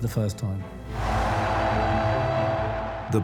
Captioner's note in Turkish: Kalabalık tezahürat ediyor